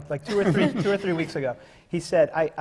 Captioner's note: laughter